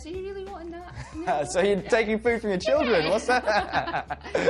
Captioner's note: laughs